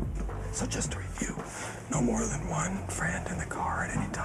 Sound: whispering

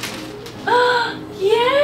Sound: gasps

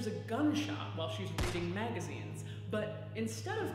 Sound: gun blasts

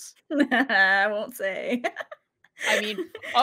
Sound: laughs

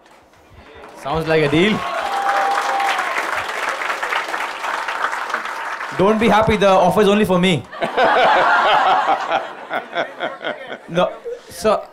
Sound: applause; applause; laughter

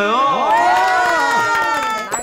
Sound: clap

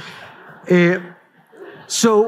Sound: laughter

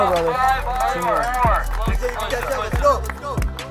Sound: people speaking indistinct and clapping hands

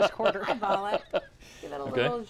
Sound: laughs

